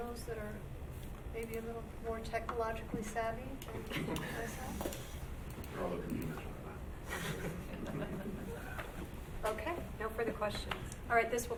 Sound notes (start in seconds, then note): 7.1 group laughs